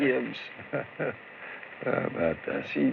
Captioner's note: chuckles